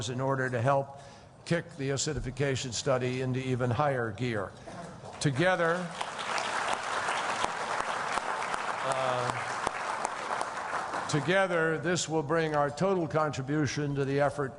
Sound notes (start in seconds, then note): 5.1 applause